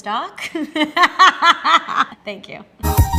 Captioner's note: laughs